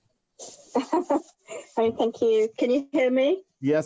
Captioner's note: laughs